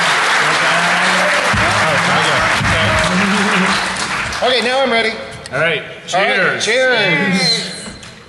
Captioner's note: applause